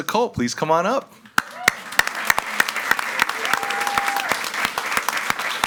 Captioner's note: all applauding